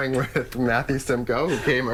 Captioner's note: laughter